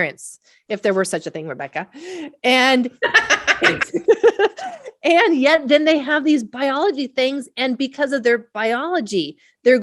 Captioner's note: both laugh